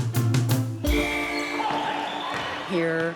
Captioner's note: crowd cheering